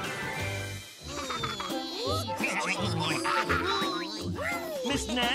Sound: laughing

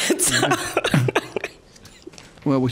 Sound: laughs loudly

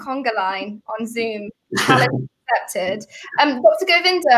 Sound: laughs

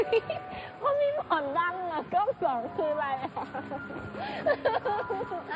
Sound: laught

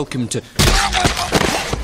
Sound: splorch

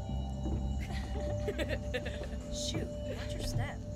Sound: chuckling

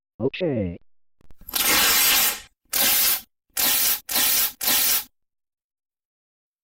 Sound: paper ripping

